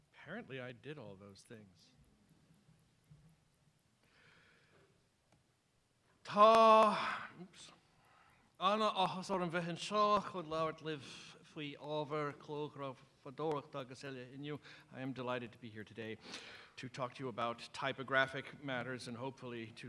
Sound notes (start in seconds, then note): 6.3 non-english speech